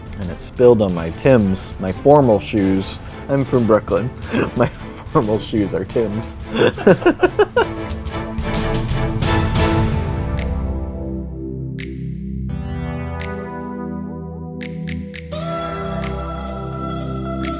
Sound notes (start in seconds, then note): 6.3 laughs; 10.5 upbeat music